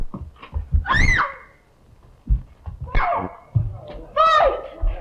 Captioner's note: Evelyn screams